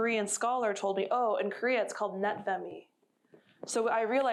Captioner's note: korean